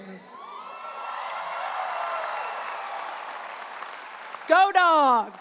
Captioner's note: audience cheering and applause